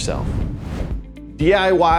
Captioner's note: video graphics whooshing